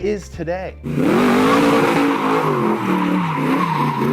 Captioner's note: engine whirs